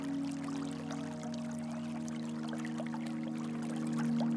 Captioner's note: flowing water